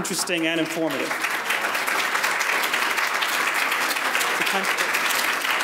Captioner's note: audience applauds